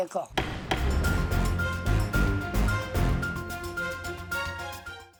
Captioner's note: dynamic music; gavel banging